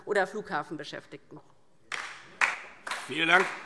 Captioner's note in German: Beifall DIE LINKE